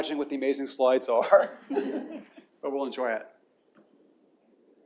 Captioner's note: laughter